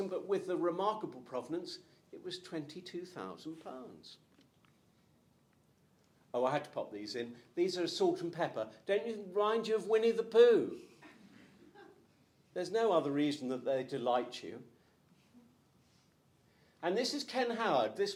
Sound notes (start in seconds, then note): 10.9 crowd chuckles